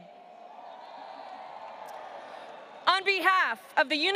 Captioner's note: audience cheering